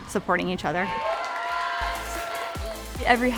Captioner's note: audience cheering and applauding